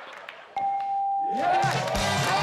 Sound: chime

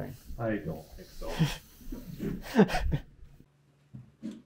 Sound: both laughing

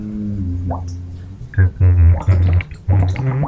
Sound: humming; more humming

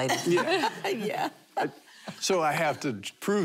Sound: laughing

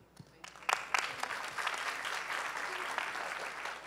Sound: applause

